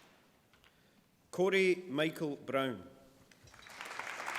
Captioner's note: applause